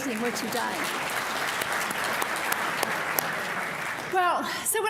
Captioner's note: audience applauding